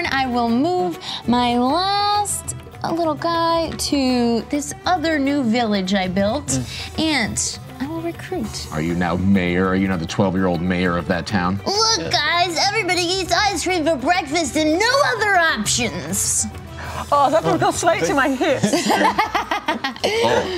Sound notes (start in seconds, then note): 11.7 imitates child's voice; 18.5 laughter